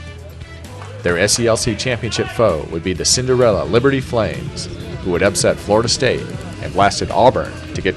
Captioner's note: team chatter